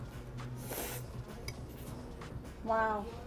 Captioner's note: slurps